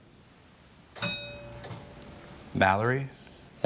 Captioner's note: bell dings